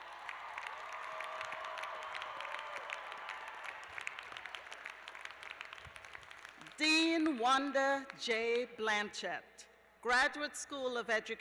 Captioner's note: cheers and applause